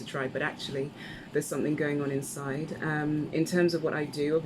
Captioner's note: none